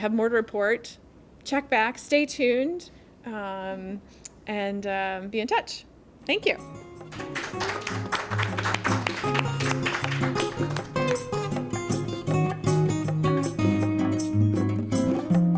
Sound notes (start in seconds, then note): 7.0 applause; 10.5 closing music